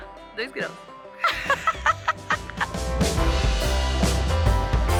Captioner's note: laughter